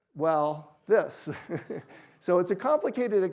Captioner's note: chuckles